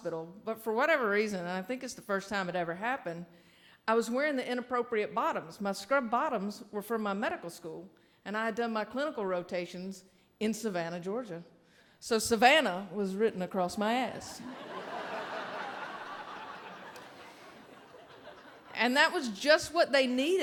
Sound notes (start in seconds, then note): 14.4 audience laughing